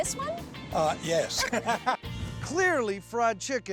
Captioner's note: laughing